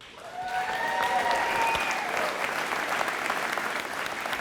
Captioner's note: audience applauding